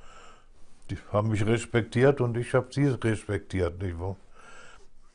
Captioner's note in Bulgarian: Аудио на немски